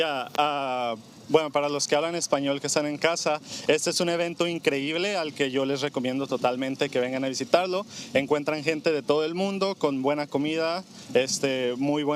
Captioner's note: speaking Spanish